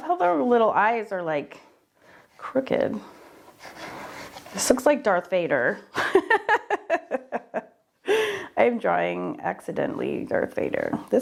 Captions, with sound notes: And I love how their little eyes are like crooked. This looks like Darth Vader. (laughing) I'm drawing accidentally Darth Vader.